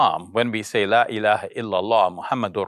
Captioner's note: speaking in foreign language